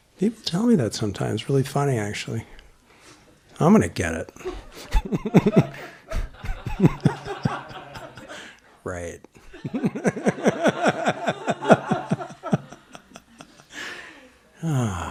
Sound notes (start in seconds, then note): 7.2 laughter; 10.2 laughter continues